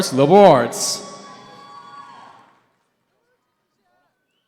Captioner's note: cheering